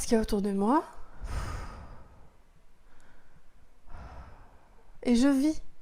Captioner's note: breathing deeply